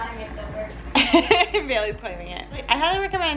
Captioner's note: laughs